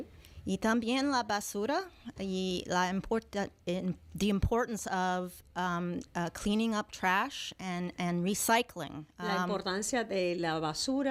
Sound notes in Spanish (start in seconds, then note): 6.8 Hablando ingl\s